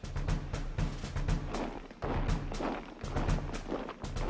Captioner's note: marching